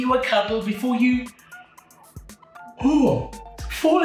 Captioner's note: yawns